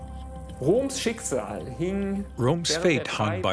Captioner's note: speaking in foreign language